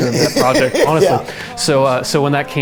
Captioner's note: laughing